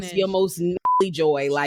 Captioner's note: beep